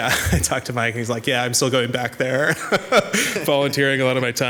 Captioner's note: laughs